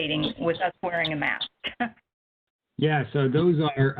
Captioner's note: laughs